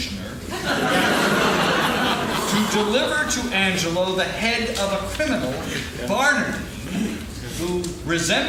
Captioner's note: laughing